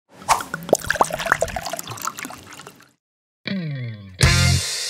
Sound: cork pops; wine pours; lively music

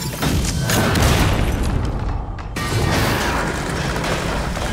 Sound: bombs exploding

